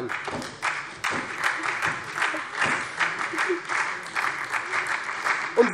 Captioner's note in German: Beifall SPD und vereinzelt Freie Demokraten